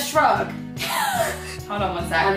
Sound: laughing

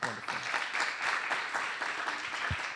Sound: applause

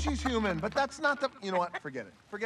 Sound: Hei Hei clucks

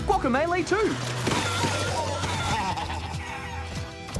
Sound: chicken squawks, boss laughs

